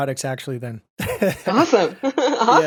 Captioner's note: chuckles